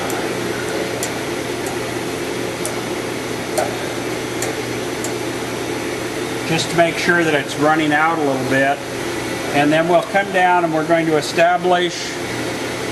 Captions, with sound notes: (soft metallic taps) (harder metallic taps) just to make sure that it's running out a little bit. And then we'll come down and we're going to establish